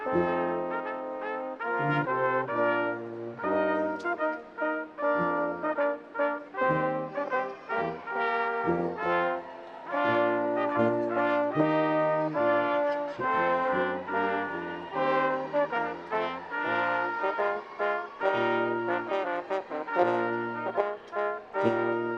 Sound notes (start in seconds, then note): 9.0 attendees cheering; 19.2 classical music